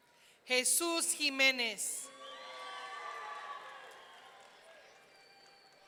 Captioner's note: audience cheering